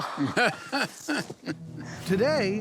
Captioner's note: laughing